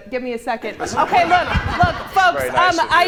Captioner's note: audience laughs